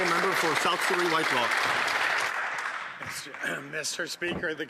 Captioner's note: some Applause